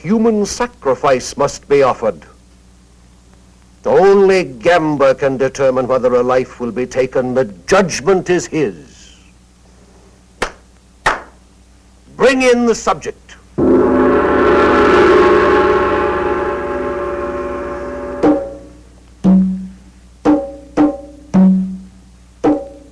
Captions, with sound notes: A human sacrifice must be offered. Only Gamba can determine whether a life will be taken. The judgment is his. (claps) Bring in the subject. (gong rings) (tense percussive music)